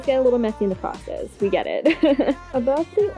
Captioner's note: laughs